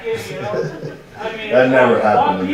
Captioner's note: audience laughing